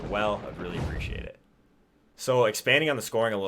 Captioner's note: air whooshing